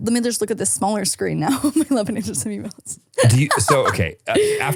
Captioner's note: laughs